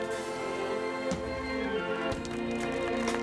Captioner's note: applause